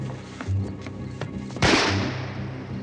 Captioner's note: gunshot